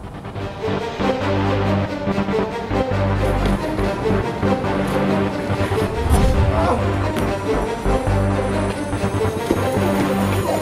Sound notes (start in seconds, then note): 0.3 light dramatic music; 6.4 man groans